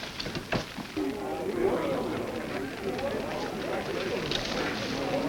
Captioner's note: men muttering